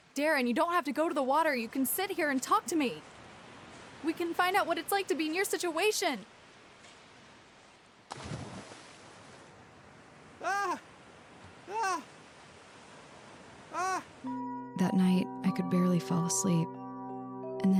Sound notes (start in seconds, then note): 8.0 water splash; 10.4 Darren screaming; 14.2 soft electric piano